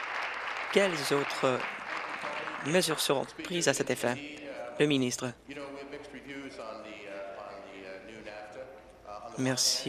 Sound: applause

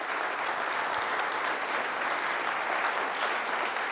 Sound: audience applauds

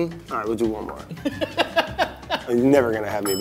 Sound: laughs

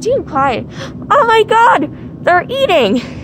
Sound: gasp

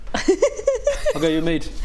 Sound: Phoenix giggles

